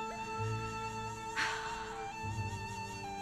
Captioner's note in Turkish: İç çekiyor